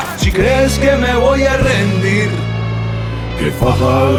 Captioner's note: non-english speech